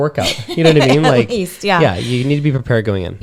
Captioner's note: laughs